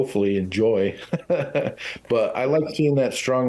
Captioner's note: laughing